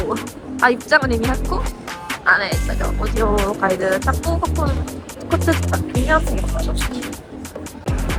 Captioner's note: Korean